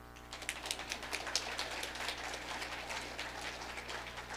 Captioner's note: audience applauding